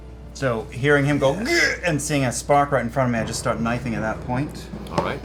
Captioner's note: grunts